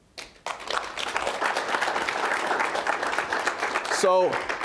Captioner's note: applause